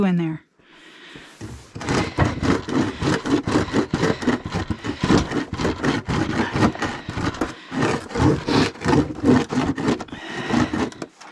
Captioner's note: wood against plastic scraping sounds